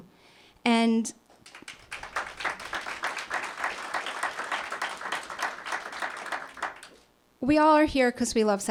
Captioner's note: applause